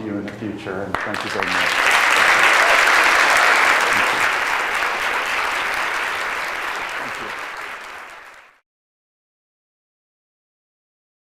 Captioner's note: applause